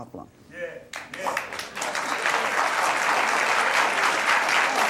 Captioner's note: audience applauding